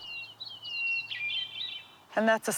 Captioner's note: bird singing